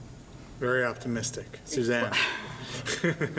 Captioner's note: laughs